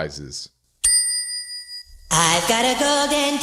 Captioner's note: bell Dinging